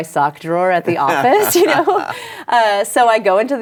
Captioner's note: laughter